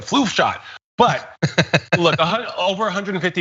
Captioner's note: laugh